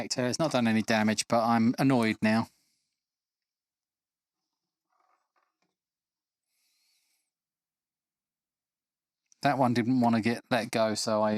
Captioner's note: silence